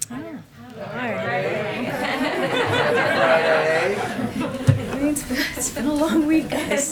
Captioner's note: laughter